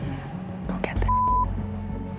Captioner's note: beep